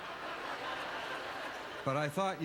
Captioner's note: audience laughter